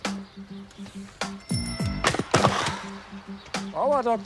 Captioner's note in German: Fahrradklingeln, Bremsgeräusche